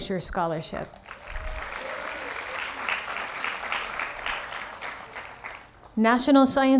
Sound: applause

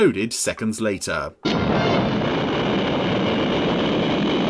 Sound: explosion

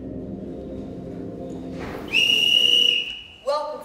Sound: A whistle is blown

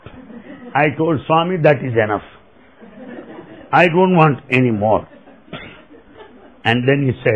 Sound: laughter

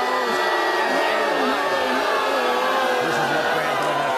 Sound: crowd jeers

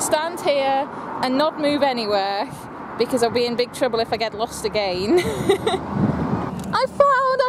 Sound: laughs

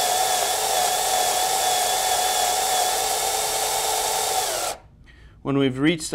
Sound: more drilling sounds

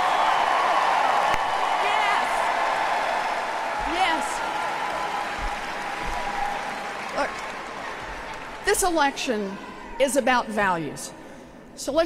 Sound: applause

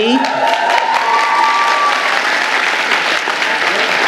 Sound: audience applauding

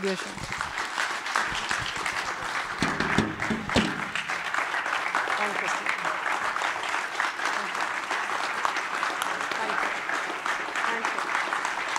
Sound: applause

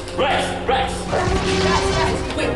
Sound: dinosaur roars

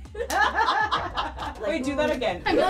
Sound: laughing

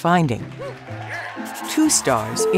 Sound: applause

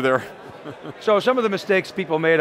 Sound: laughs

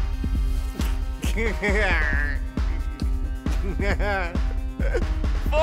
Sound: evil laughter

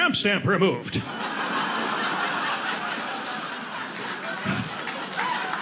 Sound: audience laughing; audience applauding

